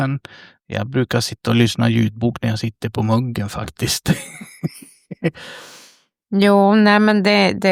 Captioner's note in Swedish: skratt